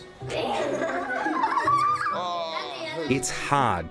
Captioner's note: children laughing